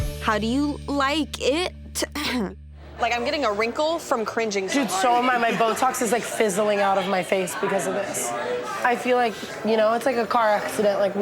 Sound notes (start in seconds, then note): 2.0 clears throat